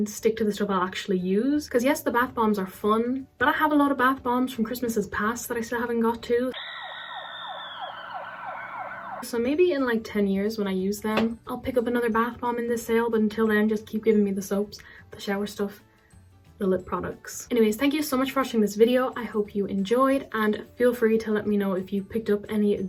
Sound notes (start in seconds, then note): 6.5 horrific screams and police siren